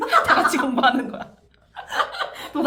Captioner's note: laughs